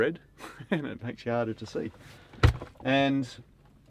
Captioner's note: thud